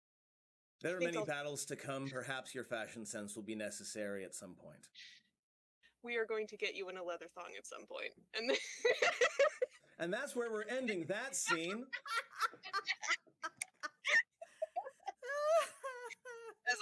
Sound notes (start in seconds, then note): 8.9 looses it laughing; 14.5 laughing